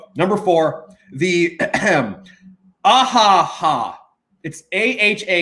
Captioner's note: clears throat